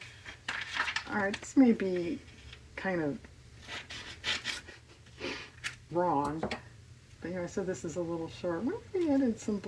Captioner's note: laughs